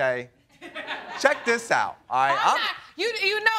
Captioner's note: audience laughs